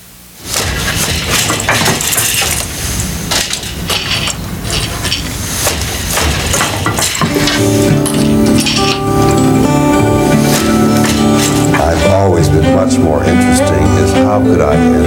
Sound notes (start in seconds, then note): 0.5 weaving machine clatters; 7.2 gentle music